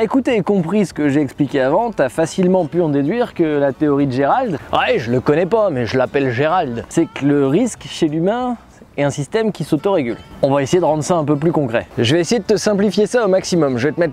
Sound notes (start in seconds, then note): 6.5 strong French accent